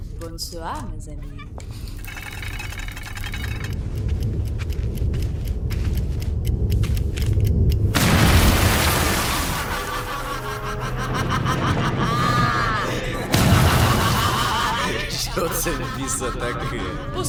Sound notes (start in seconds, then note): 3.5 clock ticking; 7.9 explosion; 11.3 maniacal laughter; 14.8 laughing